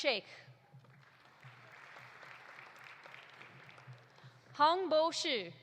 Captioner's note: audience applauding